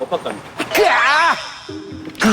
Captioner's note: A commotion